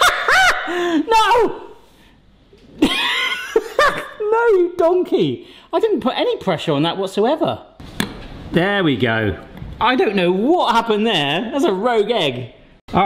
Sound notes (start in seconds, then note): 0.0 loudly laughs; 8.1 egg cracks